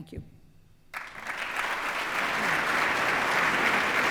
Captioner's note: applause